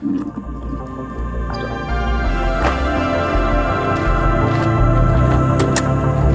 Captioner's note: bright music; footsteps crunching; gear clattering